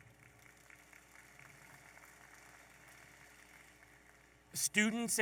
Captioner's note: audience applauding